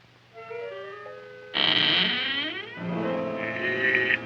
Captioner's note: Audrey Jr. creaking; mysterious music